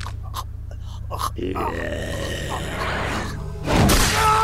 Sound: creepy groaning

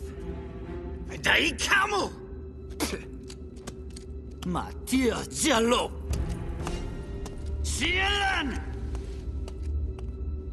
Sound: spits

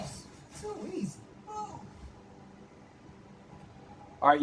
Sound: game voice

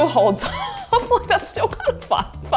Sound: laughs

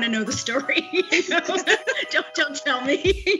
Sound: laughing

